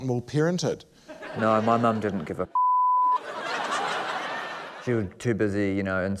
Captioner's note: laughter